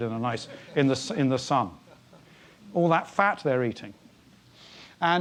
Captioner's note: laugh